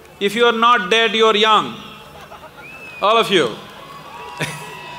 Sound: laughs

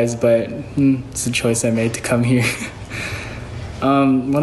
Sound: chuckles

